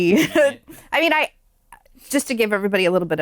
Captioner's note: laughter